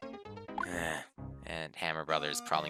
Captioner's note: sigh